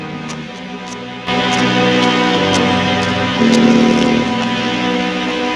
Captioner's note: coughing